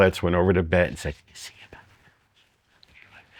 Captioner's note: whispers